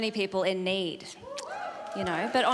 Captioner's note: audience cheering